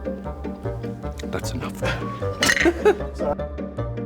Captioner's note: laughs